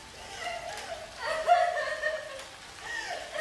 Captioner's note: loud sobbing